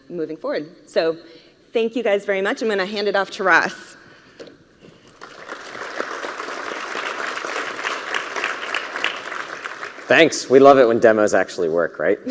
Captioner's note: cheering and applause